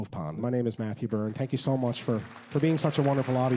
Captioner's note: applause